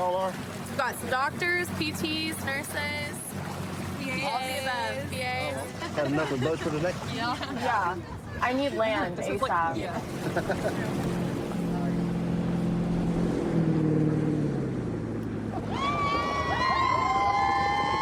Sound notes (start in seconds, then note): 13.2 laughs; 15.6 cheers